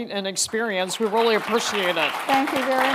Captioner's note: attendees applauding